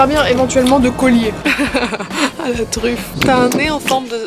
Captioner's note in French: rires